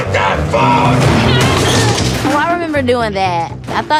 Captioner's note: metal creaks; Erica grunts